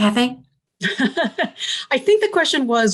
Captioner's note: laughs